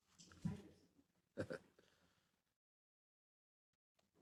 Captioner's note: laugh